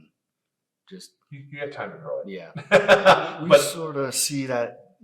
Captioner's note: laughs